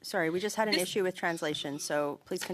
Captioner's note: speaking French